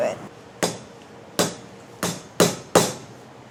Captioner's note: banging